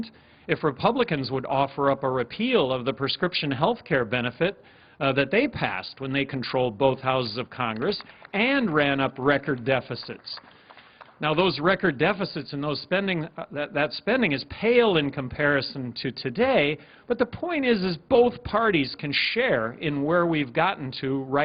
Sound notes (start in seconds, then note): 7.7 applause